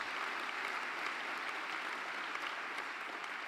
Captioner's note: applause